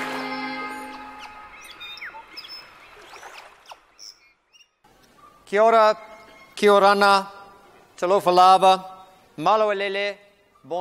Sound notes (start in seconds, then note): 0.2 birds squawking; 5.4 man speaking in foreign language